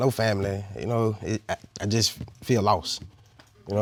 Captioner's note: stammers